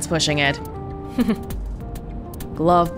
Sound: chuckles

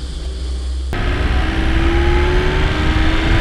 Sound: engine sounds

